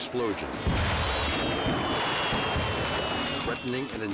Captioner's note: fireworks whistling